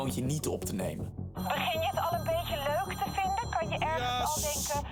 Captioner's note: phone